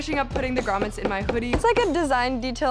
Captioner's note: hammering